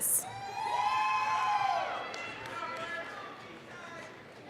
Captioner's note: applause, cheering